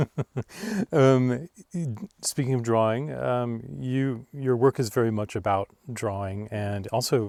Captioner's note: laughs